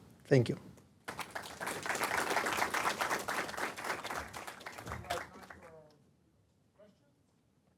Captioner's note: applause